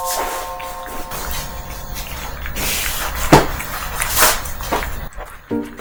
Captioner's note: chomp chomp